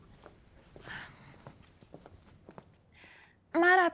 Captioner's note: none